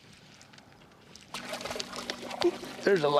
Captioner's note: splashing